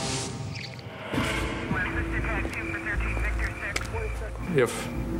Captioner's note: talking over radio